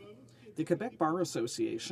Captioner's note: speaking French